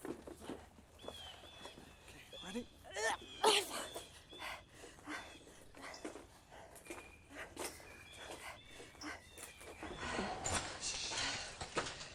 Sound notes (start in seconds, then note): 2.9 Andrea groans; 5.5 Andrea breathing heavily